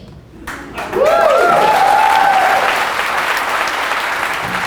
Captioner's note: audience cheers and applause